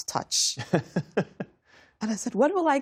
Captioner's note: laughter